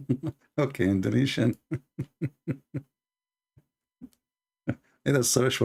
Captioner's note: Ketawa